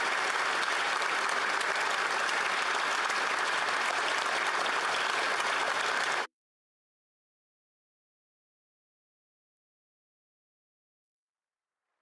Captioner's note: applause